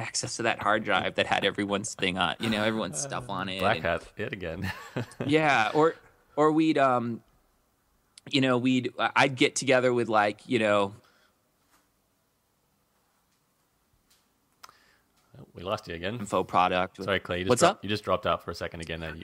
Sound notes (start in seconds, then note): 4.6 laughs